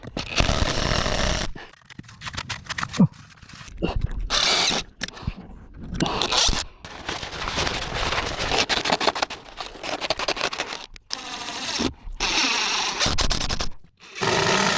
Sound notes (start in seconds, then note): 0.1 drill whirring; 6.0 grunting; 7.5 drill whirring